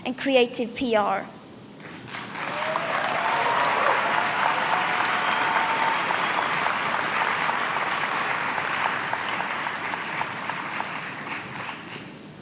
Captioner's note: applause